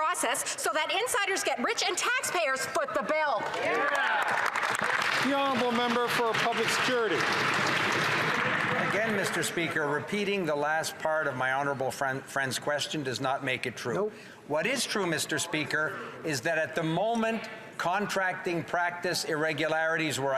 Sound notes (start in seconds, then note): 8.8 some Applause